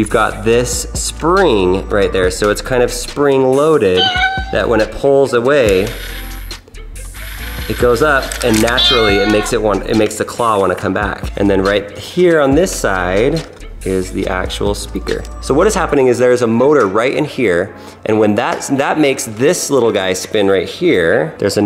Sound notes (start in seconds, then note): 3.9 cat meows; 5.7 gears turn; 8.4 cat meows